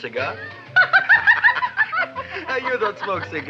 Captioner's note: laughs; Gravis laughs